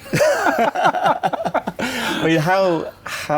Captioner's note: both laugh